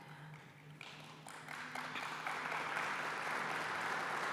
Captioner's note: applause